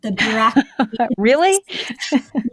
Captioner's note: laughs